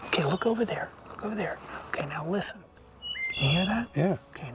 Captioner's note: bird</b> <b>singing